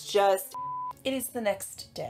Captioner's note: beeping